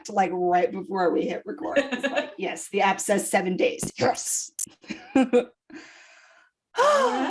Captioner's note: sigh